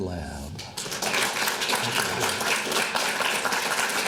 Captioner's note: applauding